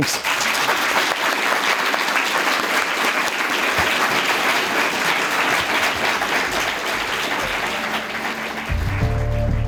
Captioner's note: applause; closing music